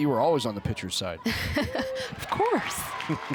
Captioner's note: chuckles